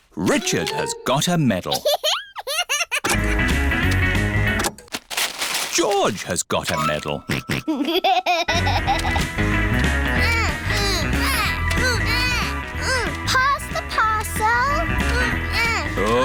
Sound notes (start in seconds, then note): 7.2 snorts and laughs; 10.2 both grunting